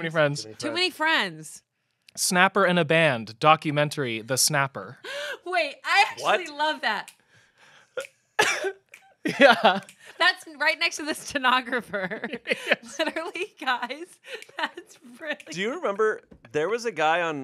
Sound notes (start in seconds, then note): 7.6 snap